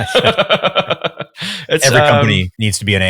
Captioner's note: laughing